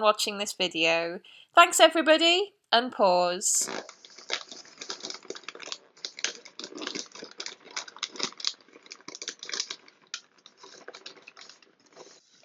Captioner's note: unwrapping sounds